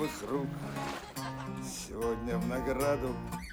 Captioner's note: laughing